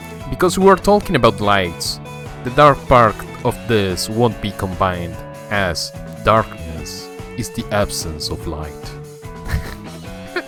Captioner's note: laughs